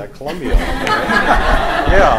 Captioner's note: laughter